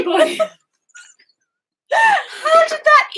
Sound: both laughing

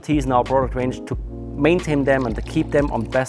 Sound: water pouring

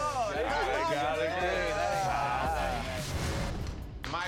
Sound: all reacting

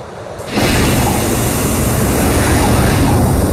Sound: drone clanks; drone whizzing

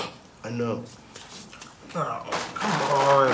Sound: scoffs

